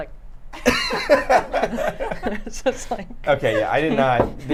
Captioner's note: everyone laughs